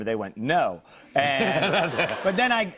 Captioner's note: laughter